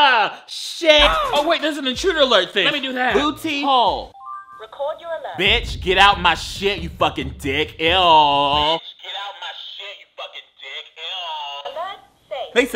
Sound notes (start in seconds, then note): 1.0 boy grunts; 4.3 diary chimes